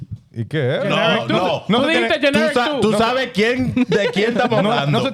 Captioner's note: speaking In Foreign Language